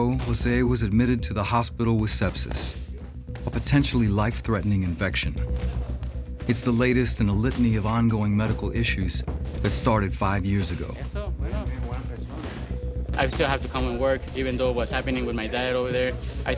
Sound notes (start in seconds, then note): 12.9 scoffs